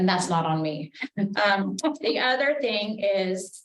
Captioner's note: woman laughing